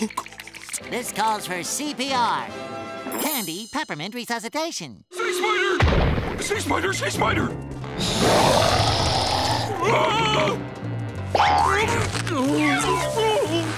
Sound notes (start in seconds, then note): 8.0 roaring; 9.9 screaming; 11.3 groaning